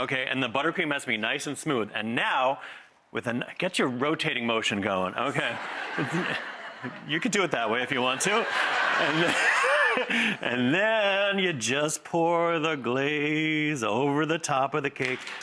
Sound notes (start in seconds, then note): 5.3 laughter